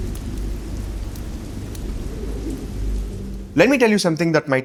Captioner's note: rain